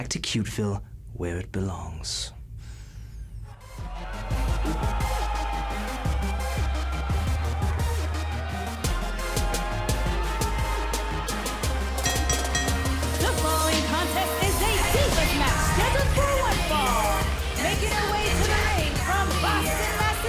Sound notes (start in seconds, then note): 12.0 bell ringing